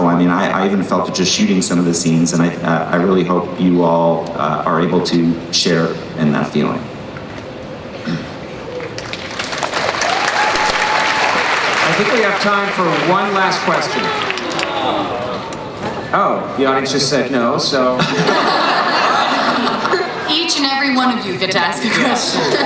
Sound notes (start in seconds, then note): 8.7 applause; 14.0 crowd; 14.9 sad murmuring crowd